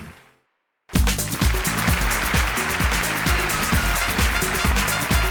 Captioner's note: applause & cheers